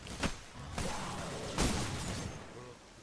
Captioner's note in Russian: рёв